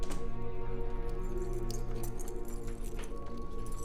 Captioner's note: door latch clicks; keys jangling; gentle ominous music